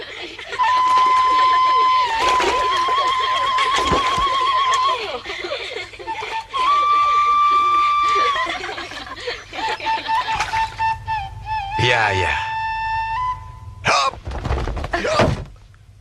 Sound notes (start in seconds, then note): 0.0 laughter; 2.2 applause